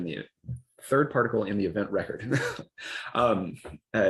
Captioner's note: laughs